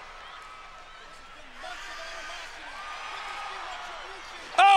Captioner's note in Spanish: público anima; Mickie grita